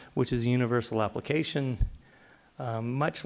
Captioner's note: none